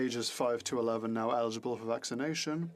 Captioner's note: speaking French